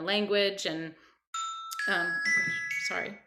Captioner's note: phone rings